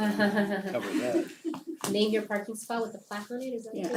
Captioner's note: laugh